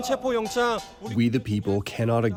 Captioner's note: through translator